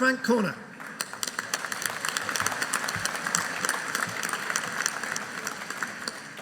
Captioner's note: audience applauding